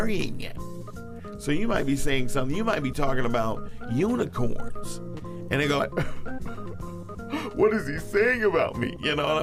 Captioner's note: sob